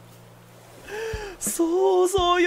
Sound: inhales

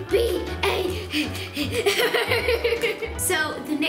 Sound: laughing

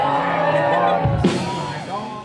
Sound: crowd cheering

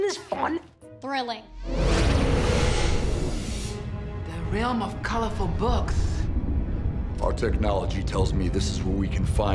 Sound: none

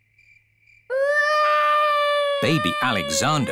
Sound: baby alexander crying

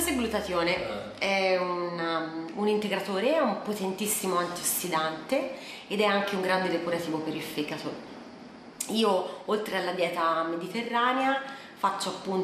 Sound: voiceover

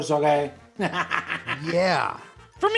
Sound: Pepper laughs

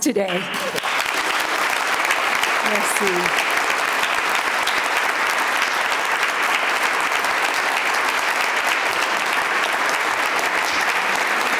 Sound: applause

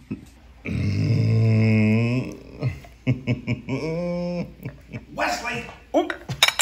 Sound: laughs

